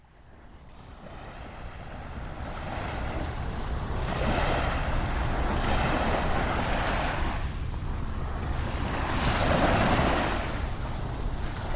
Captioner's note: waves crashing